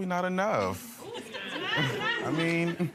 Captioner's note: audience laughing